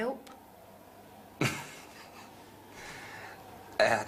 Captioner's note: laughs